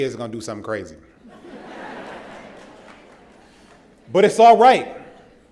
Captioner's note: laughter